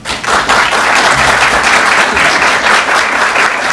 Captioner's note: applause